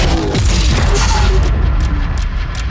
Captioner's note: engine roaring; mechanical clicking; clock ticking; intense music